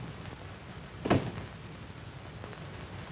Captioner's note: door closes